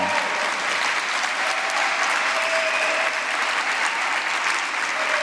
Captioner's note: applause